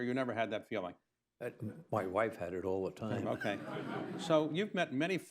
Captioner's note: laughter